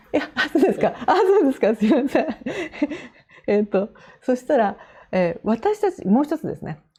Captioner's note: laughs